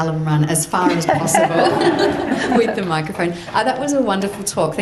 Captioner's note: audience laughs